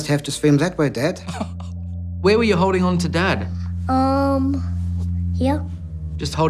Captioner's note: laughing